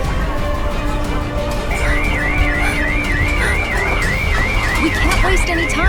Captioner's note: massive destruction; sirens wail as running footsteps and heavy breathing grow louder